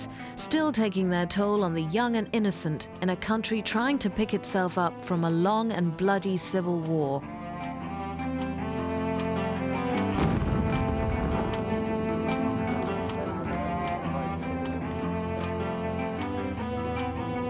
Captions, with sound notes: still taking their toll on the young and innocent in a country trying to pick itself up from a long and bloody civil war. (somber music) (explosion)